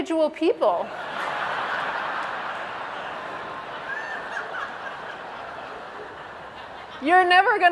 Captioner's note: laugh